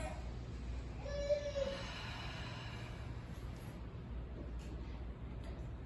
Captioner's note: exhale